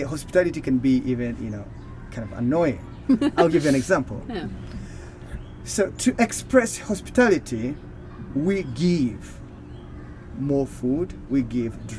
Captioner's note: laughing